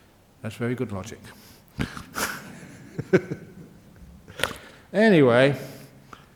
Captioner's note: laughs